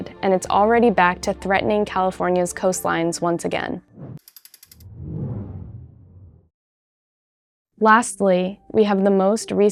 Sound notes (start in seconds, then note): 4.8 air whooshing